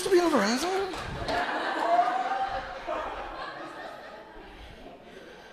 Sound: audience laughing

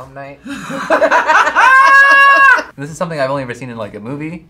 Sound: both laugh

